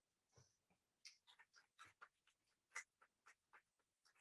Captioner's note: audience claps